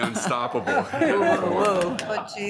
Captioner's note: members laughing